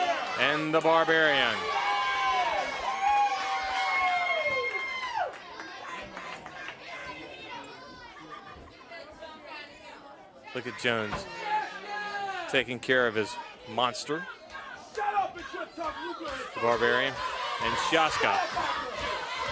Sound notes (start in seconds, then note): 1.6 crowd chatter; 2.4 crowd cheering; 3.5 crowd chatter; 15.0 crowd chatter